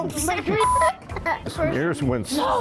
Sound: laughter

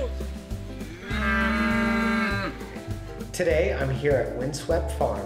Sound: gasps

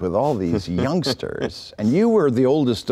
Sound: laughing

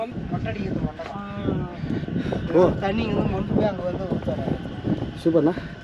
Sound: speaker noise

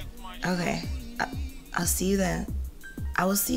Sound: Tasha moaning

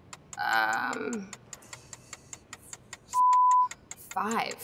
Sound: timer ticks; beep

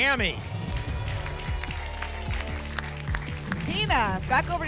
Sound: applause and cheering

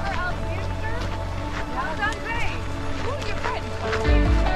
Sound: people chattering

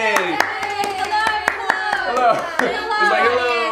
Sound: clapping

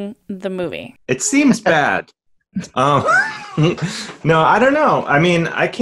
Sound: laughs

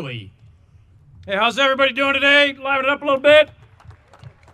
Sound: audience applauding

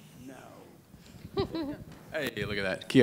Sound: speaks in a foreign language; laughs

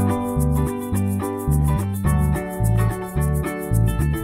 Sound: upbeat music; logo springs

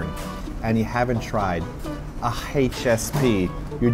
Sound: none

